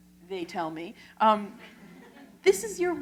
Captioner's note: laughter